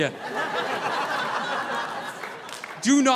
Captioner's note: audience laughing